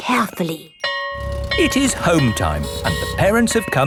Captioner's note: school bell ringing